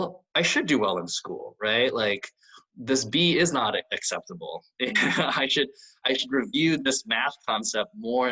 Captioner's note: laughs